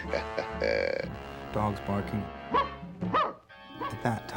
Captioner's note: chuckling; barking